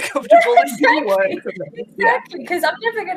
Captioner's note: laughing